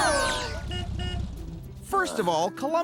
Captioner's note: horn honks